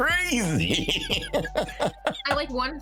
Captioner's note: laughing